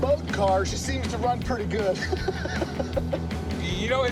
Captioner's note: laughs